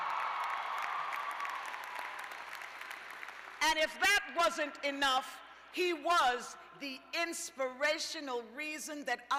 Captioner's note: cheers and applause